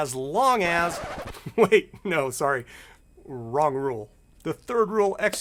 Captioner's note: LP record scratching